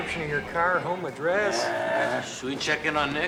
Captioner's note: groaning